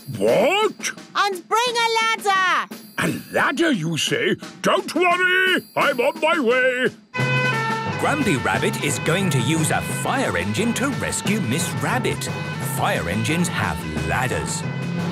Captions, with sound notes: - What? - And bring a ladder! - A ladder you say? Don't worry, I'm on my way! (sirens) - Grampy Rabbit will use a fire engine to rescue Miss Rabbit. Fire engines have ladders.